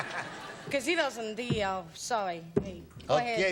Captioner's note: laughs